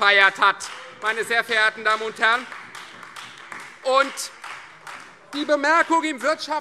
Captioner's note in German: Beifall Freie Demokraten und vereinzelt AfD